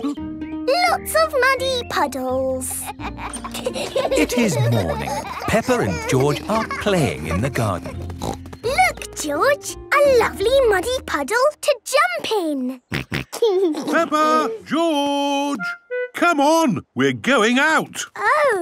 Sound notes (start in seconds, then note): 7.8 snorting; 13.4 snorting and giggling